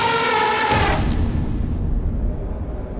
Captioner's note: T-rex roaring; stomp!